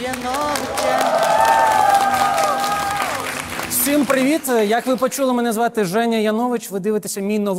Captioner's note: applause